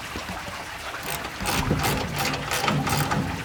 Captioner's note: rattling